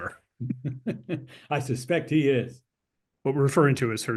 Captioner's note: laugh